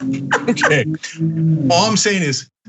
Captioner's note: laugh